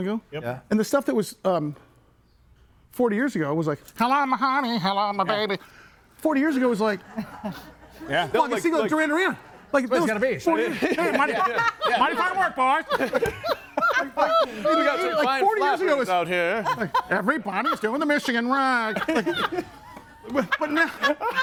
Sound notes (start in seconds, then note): 10.5 group chattering; 13.2 group laughs; 18.4 group laughs